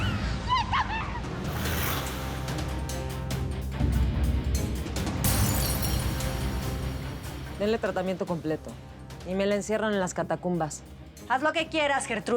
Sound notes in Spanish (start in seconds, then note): 2.0 Sonido al rasgar el vestido; 7.0 Sonido de vidrios